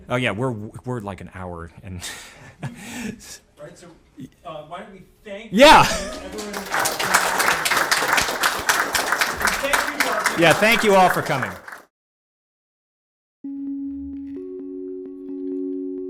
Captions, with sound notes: Oh yeah, we're like an hour and. - Right so why don't we thank everyone. (audience applauding) Thank you all. - Yeah thank you all for coming. (gentle music)